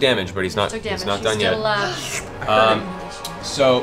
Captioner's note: slurps